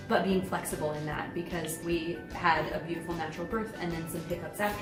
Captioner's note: none